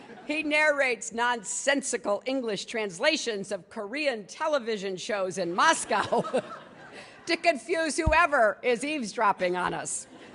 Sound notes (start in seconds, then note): 0.0 laughter; 5.7 laughter; 10.0 laughter